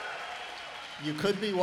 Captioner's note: applause